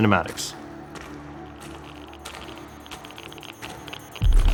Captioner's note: footsteps, sensor crackles